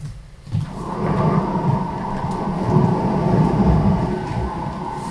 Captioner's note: wind howling